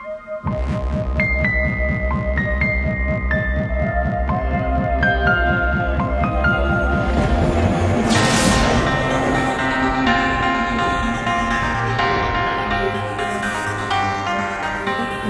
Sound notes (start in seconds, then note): 0.5 eerie music; 7.1 lightning crashes